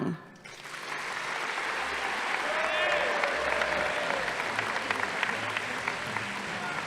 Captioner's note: audience applauding; crowd cheering